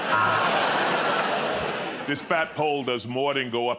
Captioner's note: laughter